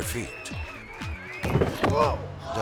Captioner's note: onlookers cheering; body thumping; man moaning